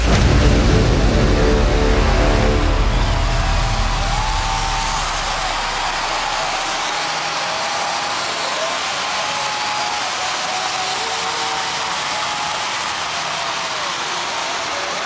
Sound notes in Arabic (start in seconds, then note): 0.0 انفجار مدافع; 3.7 تشجيع الجمهور